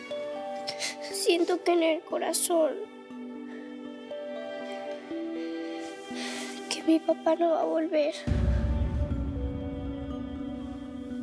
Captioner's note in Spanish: Sollozos